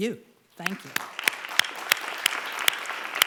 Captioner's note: applause